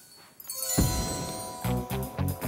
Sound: magic poof; tense music

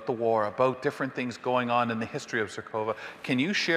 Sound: none

